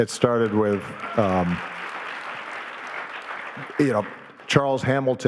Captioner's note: audience applauding